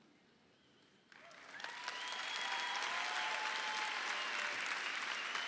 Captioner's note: crowd applauds